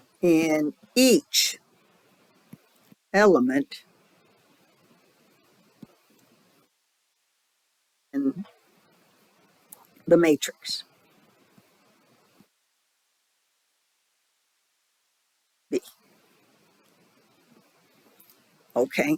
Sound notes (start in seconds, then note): 10.8 7-second silence